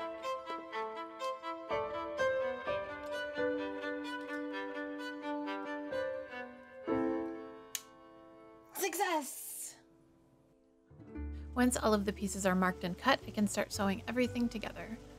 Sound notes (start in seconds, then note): 7.7 triumphant click